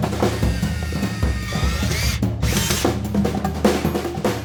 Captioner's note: drill buzzing